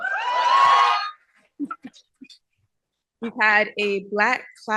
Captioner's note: cheering